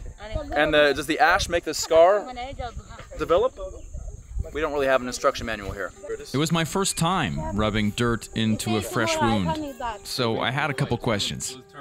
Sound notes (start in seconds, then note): 3.7 chatter in Mursi